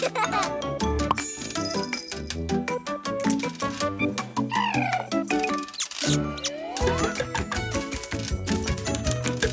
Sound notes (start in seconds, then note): 0.0 giggles; 1.2 bell jingles; 4.5 coos; 5.8 chirps